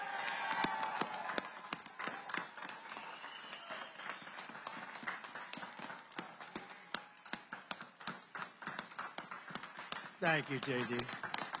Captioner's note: applause